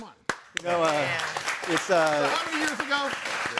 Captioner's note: audience applauding